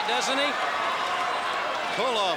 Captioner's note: crowd cheering